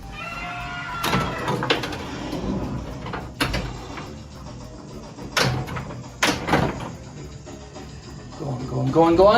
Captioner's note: roaring and Pinball noises